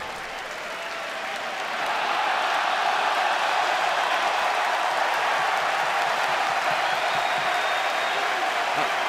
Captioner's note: cheers and applause